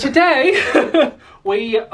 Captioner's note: laughs